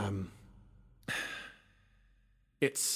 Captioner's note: sigh